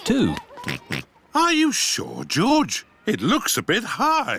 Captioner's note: oinks